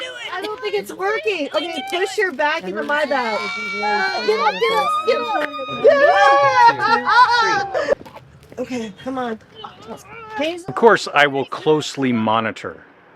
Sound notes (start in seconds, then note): 5.9 cheering and laughter